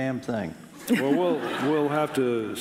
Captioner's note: laughing